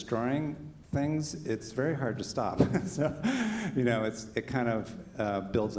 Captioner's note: chuckles